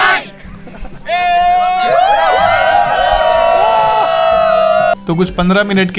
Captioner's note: cheerful scream